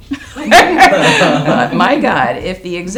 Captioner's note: all laughing